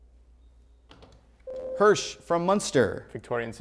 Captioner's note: buzzer